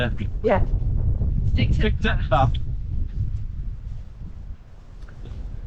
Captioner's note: wind